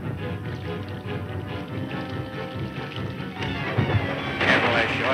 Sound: water sloshing and splashing

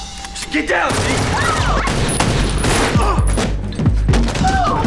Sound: gunfire

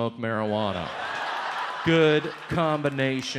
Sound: audience laughs

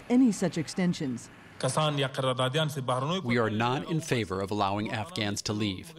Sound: through translator

